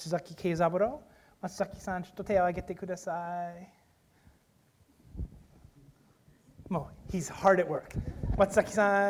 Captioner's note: speaking japanese